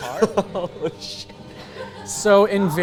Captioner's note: laughs